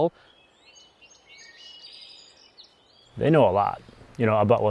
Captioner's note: birds chirping